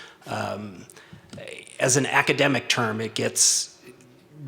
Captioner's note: stutters